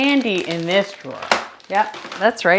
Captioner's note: bag rattling